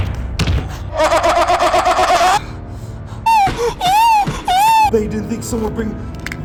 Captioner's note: screams